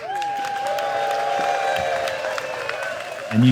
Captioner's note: applause